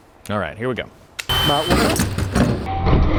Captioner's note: impact drill buzzing loudly; tools rattle loudly